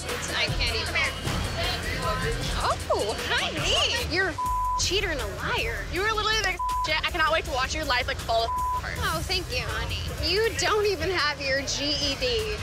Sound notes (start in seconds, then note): 4.3 beep; 6.5 beep